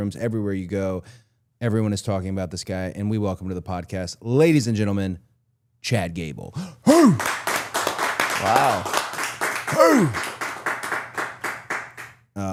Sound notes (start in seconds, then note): 7.0 claps; 7.7 crew claps; 10.8 crew claps